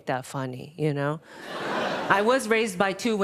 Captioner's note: audience laughing